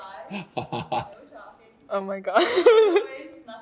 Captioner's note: both laughing